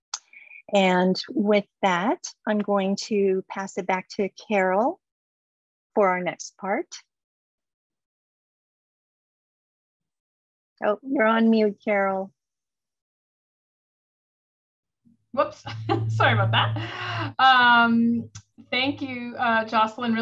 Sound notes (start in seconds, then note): 15.6 laughter